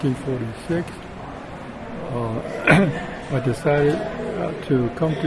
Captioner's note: clears throat